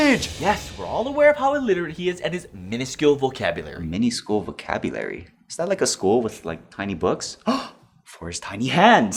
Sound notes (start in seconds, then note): 7.4 le gasp